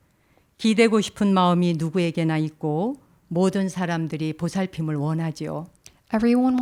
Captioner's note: speaking in Korean